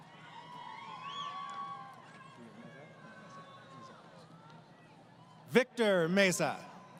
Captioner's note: crowd Cheering